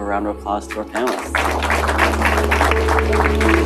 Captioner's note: applause; light music